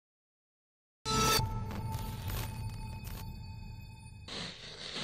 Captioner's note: electricity sputtering; musical screech